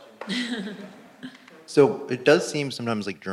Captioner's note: laugh